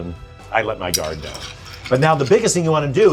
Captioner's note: spoon clanging